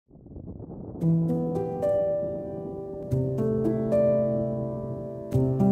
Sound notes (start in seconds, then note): 0.0 wind rumbling; 1.0 soft music